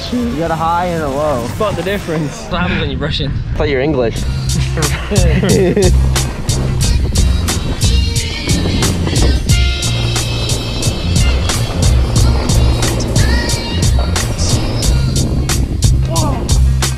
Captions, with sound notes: - That's definitely a crisp shoe, we got a high and a low. - Spot the difference. - It's what happens when you're rushing. - I thought you were English. (laughs) (happy instrumental music)